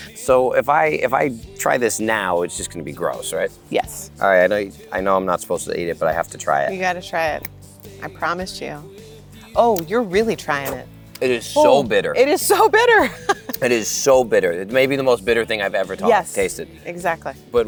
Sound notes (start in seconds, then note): 10.6 spits; 12.9 chuckles